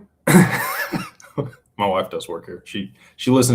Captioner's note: laughter